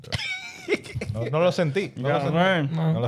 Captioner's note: laughing; speaking In Foreign Language